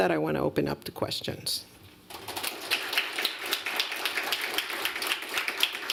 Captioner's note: applause